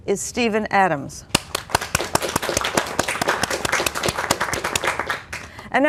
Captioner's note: applause